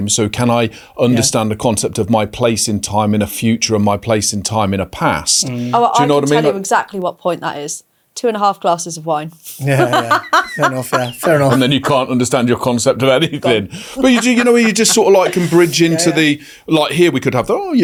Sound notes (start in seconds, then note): 9.7 laughs